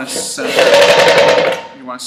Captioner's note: loud banging